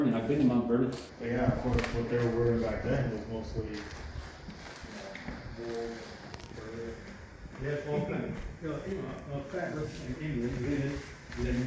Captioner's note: background chatter